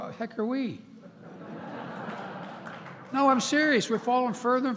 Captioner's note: laughter